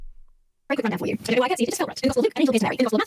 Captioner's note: voice speeds up